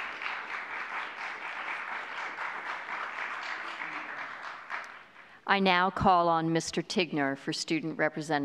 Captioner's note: applause